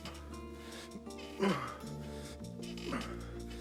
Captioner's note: grunting